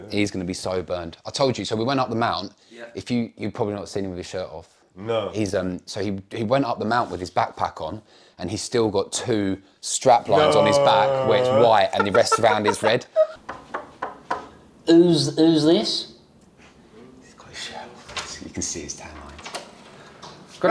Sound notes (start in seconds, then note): 17.2 whispers